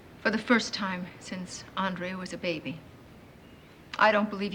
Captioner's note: none